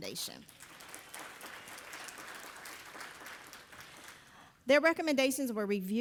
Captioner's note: audience applauding